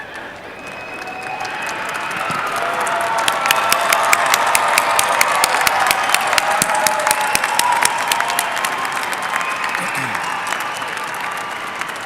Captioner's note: applause